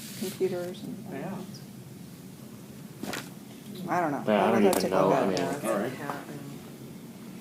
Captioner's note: indistinct conversations